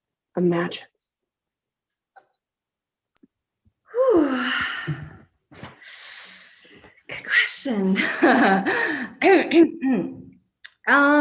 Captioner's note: laughs and clears throat